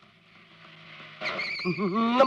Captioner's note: brakes squeal